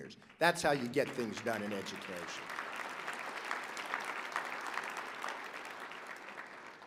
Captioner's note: applause